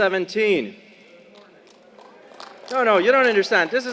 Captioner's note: applause